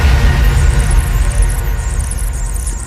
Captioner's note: rats squeaking